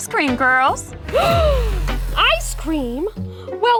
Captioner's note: Blueberry gasping